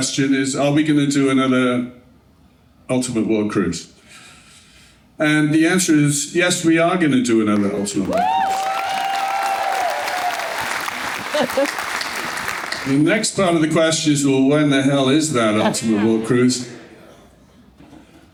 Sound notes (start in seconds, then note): 13.2 cheering